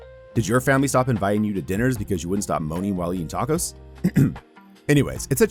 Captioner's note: ahem